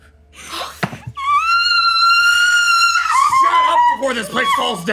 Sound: screaming

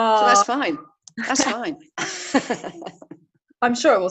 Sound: laughing

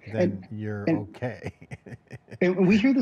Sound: chuckles

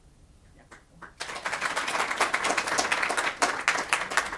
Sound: audience applauds

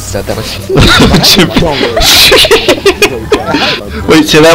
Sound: uncontrollable laughter

